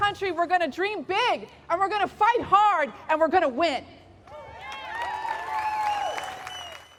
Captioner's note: applause